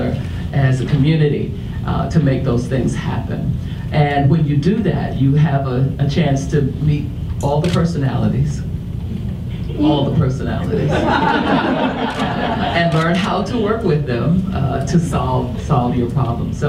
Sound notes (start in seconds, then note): 10.7 audience laughs